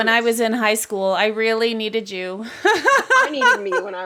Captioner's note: laughs